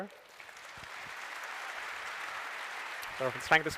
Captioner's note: applause